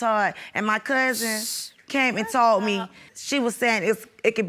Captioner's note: sucks teeth